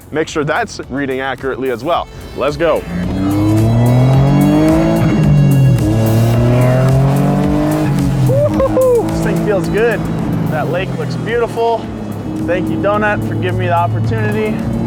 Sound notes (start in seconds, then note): 6.3 engine humming